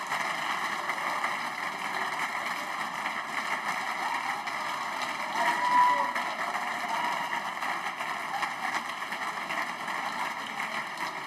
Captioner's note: applause